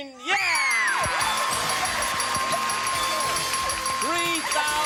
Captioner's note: dinging